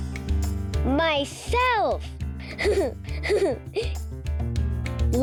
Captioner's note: giggles